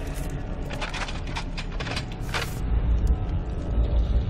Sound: clanking noises

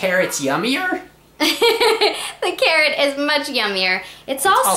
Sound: laughs

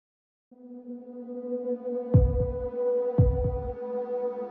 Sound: droning

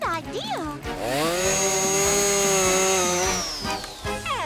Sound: whirring

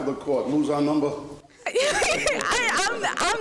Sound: laughing

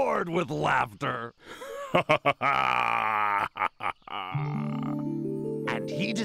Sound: laughs heartily

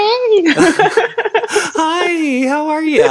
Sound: laughing

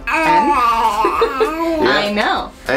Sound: baby noise

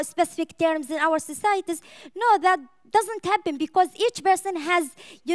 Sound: none

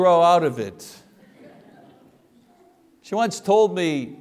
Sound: congregation laughs

